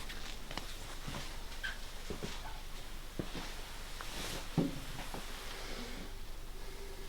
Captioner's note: footsteps